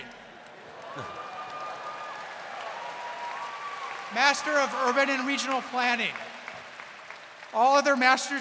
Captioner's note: laughter